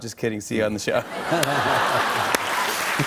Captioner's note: cheers and applause